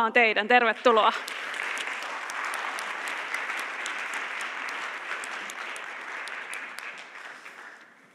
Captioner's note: applause